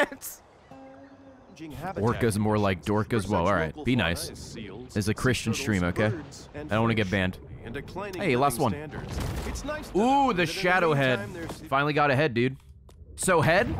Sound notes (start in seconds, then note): none